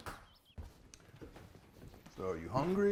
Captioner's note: footsteps approaching